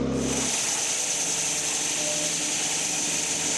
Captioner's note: log saw whirring